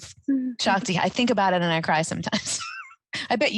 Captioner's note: chuckling